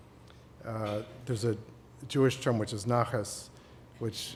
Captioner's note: non-english